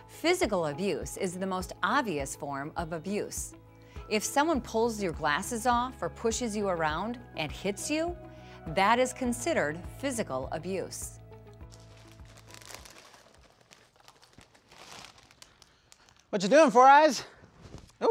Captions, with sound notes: Physical abuse is the most obvious form of abuse. If someone pulls your glasses off or pushes you around and hits you, that is considered physical abuse. (chip bag rustles) - Whatcha' doin', Four Eyes?